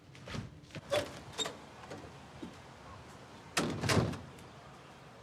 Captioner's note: door creaks and thuds